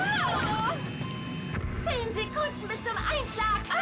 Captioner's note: screaming